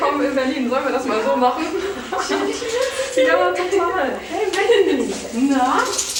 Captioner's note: laughing